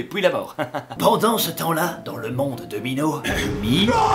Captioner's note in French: rires; voix grave